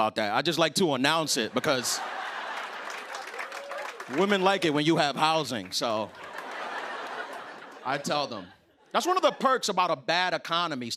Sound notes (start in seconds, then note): 1.4 laughter and applause; 6.1 laughter